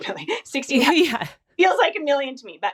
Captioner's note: laughs